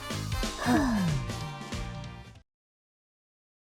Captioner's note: sigh